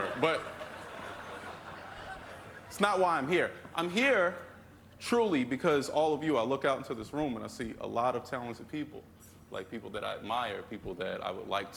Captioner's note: laughter